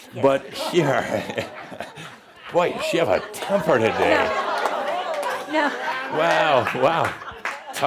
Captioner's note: laughter; more laughter